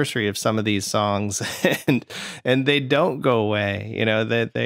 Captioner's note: laughter